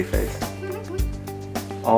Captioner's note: giggles